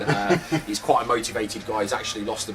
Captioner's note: laughing